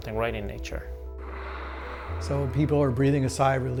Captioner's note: water spraying